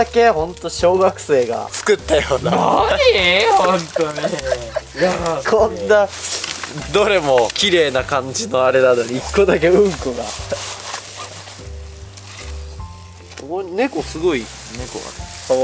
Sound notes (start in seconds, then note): 5.9 laughs